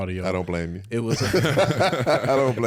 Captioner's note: all laugh